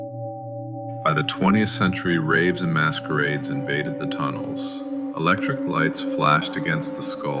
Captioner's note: whispering